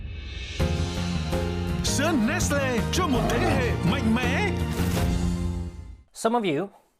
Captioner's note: speaks foreign language; techno music